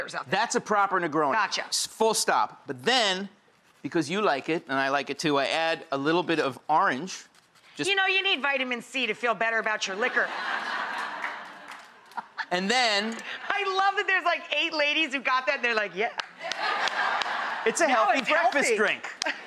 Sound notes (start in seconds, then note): 9.9 audience laughs; 10.5 Rachael chuckles; 16.1 claps; 16.4 audience laughs